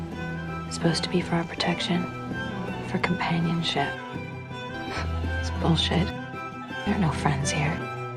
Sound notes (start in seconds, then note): 0.8 voiceover; 3.1 voiceover; 4.8 June scoffs; 5.5 voiceover